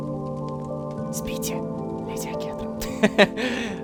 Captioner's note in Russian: шепотом